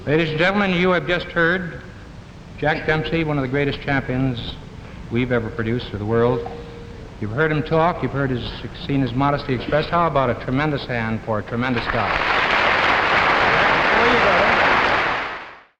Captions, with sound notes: Ladies and gentlemen, you have just heard Jack Dempsey, one of the greatest champions we've ever produced for the world. You've heard him talk, you've heard his, seen his modesty expressed. How about a tremendous hand for a tremendous guy? (audience claps)